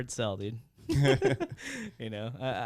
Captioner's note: laughing